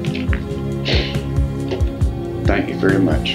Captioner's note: sniffles